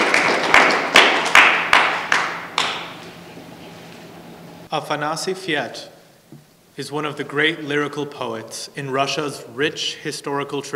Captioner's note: applause